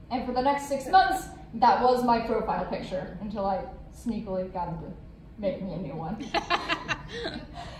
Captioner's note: laughter